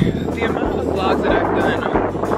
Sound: wind blowing

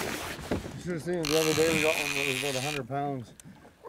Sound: reel spinning

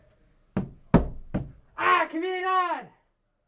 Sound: foot stomps

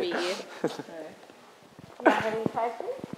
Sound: laughs

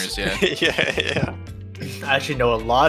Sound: laughs

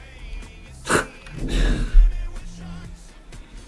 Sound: chuckle

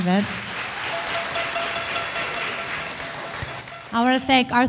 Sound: audience applause

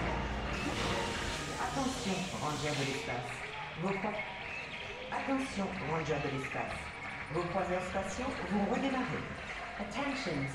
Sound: ride announcement in French

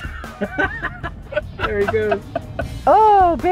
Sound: laughter; giggles

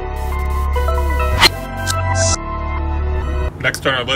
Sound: static

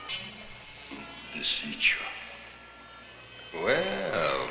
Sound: speaking in a foreign language

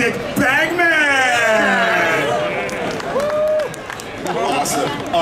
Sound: audience cheering

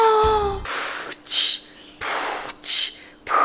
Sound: gasps; beatboxing

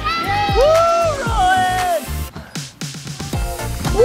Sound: crowd cheers

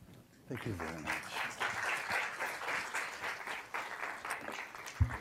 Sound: applause

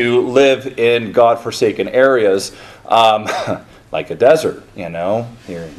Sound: chuckles

